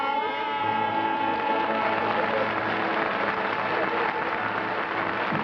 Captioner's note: applause